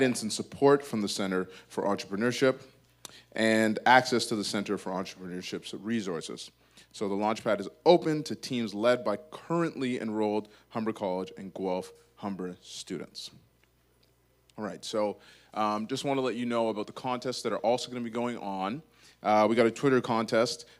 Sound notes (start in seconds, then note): none